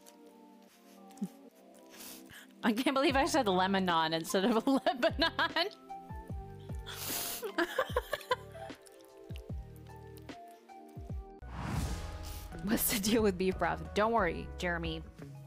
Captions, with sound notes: I can't believe I said Lemonon instead of Lebanon! *laughs* What's the deal with beef broth? Don't worry, Jeremy.